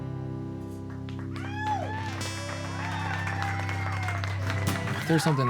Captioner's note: audience applauding